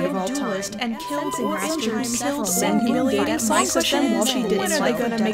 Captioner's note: multiple voices clamoring